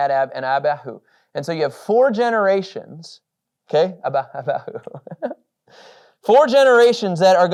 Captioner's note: laughs